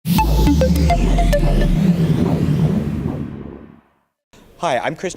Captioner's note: synth; ambient swish